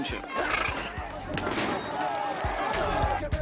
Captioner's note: people protesting; singing in foreign language